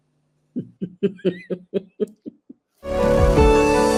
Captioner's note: laughs